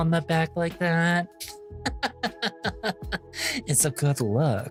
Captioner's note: laughing